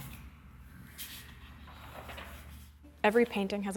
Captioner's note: page swooshes